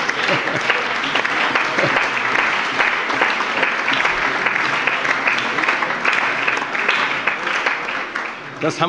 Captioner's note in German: Allgemeine Heiterkeit und Beifall